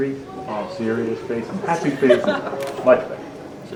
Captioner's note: both laughing